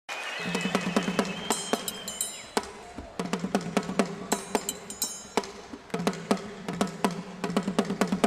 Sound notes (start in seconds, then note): 0.0 cheering and applause; 2.3 drumming